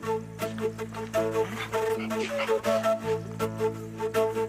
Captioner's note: water burbling